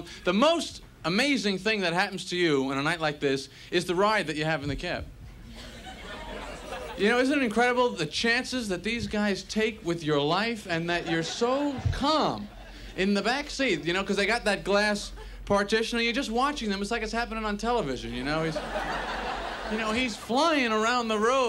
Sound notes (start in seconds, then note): 5.5 audience laughs